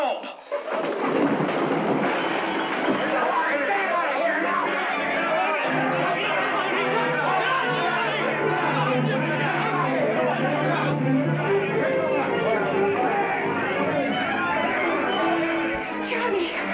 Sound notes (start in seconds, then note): 2.1 shouting